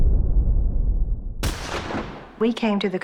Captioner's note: gunshot